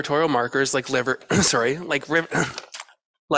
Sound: clears throat

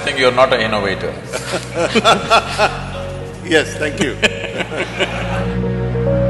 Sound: laughter

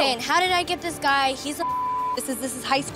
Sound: beep

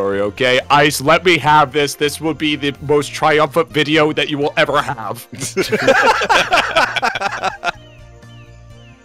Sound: group laughter

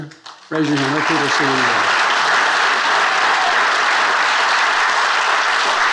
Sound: attendees applauding

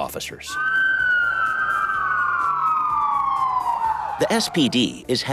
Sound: siren wailing

